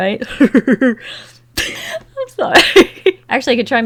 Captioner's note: laughs